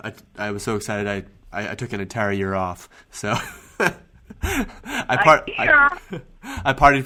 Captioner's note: laughing